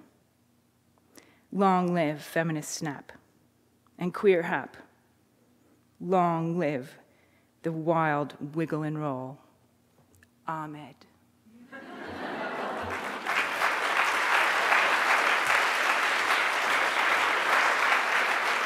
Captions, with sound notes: Long live feminist snap and queer hap, long live the wild wiggle and roll, Ahmed. (audience laughing) (audience applauding)